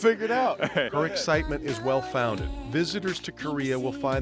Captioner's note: laughter